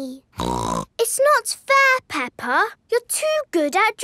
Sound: snorts

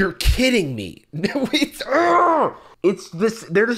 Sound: muffled screaming

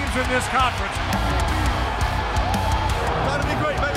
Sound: crowd cheering

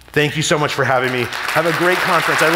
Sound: audience applauding

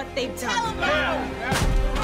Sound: shouting

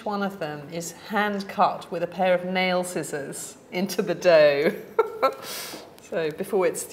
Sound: laughs

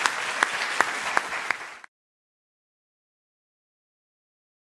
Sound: applause

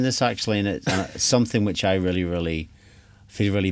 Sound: giggles

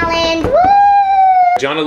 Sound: cheering

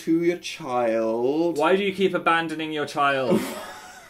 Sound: laughs

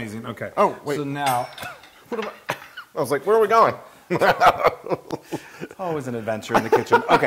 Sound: laugh

